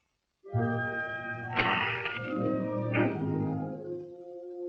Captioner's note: groaning; orchestral music